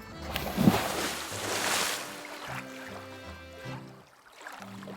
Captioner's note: water splashing